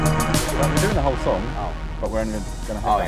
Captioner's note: none